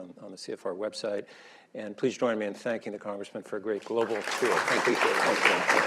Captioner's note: applause